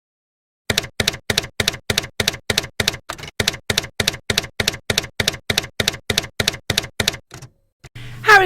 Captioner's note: typewriter keys clacking